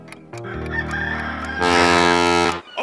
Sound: horn blowing

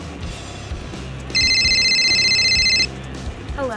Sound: phone rings

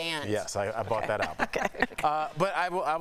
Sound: laughter

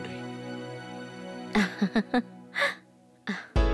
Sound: giggling

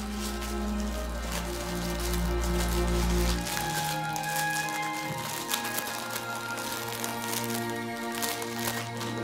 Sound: toy crackling; jingling

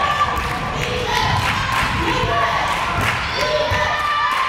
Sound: crowd chanting defense

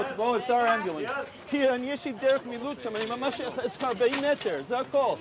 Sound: medics speak foreign language

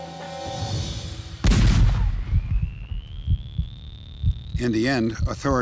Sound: pulsating

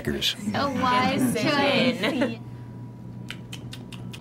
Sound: making chewing sounds

